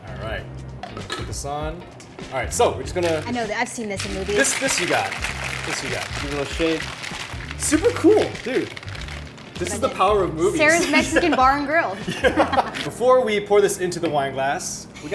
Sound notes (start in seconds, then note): 5.5 ice rattles; 12.0 laughs